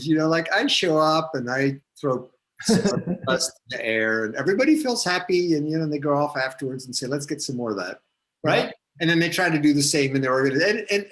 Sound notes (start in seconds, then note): 2.6 static audio; 2.6 laughs